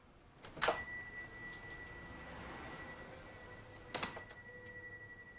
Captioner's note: door bell jingles